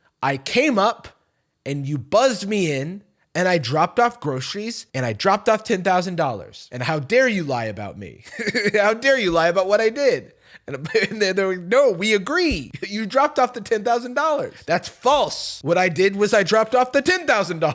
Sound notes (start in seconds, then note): 8.2 laughs; 17.5 laughing